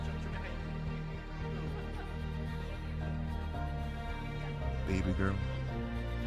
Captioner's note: laughter